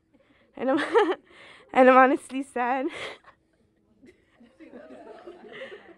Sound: laughs

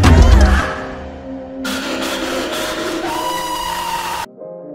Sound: screaming

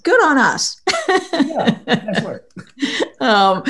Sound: laughs

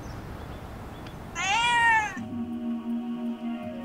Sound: cat's long meoow

